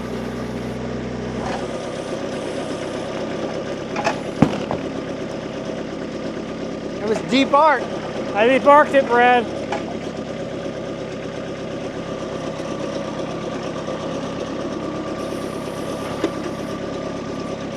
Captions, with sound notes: (wood crumbling) That was debarked. I debarked it, Brad. (engine rumbling)